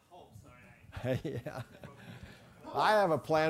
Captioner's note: laugh